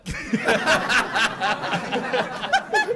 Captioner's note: laughter